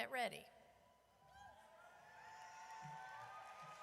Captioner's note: audience cheers